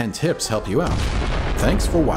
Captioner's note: boom!